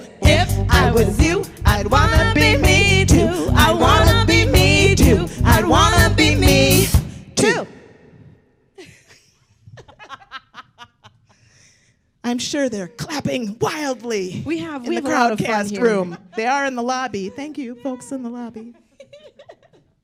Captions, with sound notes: Andrina & If I was you, I'd wanna be me too I'd wanna be me too I'd wanna be me… Too! [All laughing] I'm sure they're clapping wildly in the Crowdcast room. They are in the lobby! Thank you, folks in the lobby!